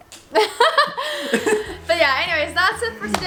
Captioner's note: both laughing